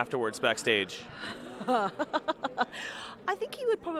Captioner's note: laughs